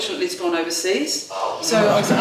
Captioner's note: laughing